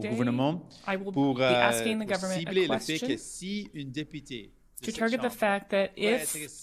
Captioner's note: speaking French